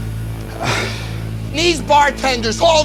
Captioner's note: sighing